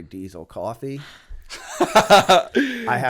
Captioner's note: laughter